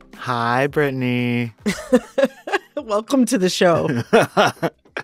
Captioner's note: laughter